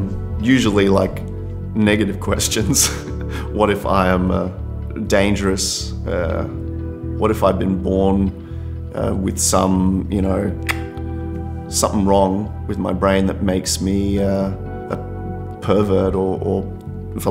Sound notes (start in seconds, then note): 10.6 clicks